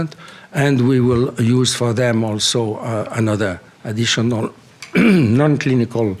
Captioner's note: coughs